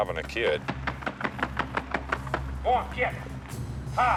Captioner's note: feet stomping